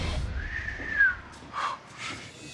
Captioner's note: whistles